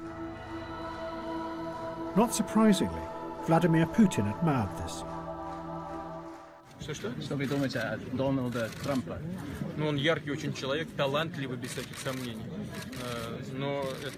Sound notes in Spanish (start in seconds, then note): 6.4 hablando en ruso